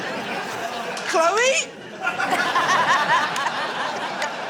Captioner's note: laughter